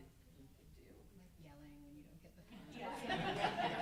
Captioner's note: everyone laughing loudly